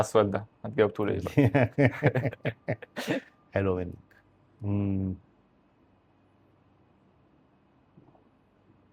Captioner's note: laughs